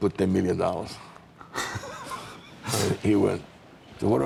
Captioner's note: laughing